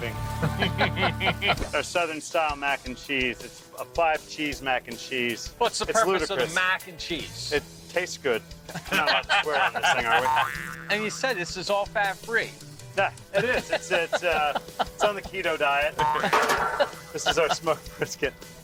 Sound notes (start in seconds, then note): 0.4 laughter; 8.6 laughter; 12.3 laughs